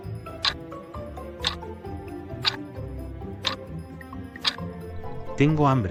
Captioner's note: FX - Clock Tick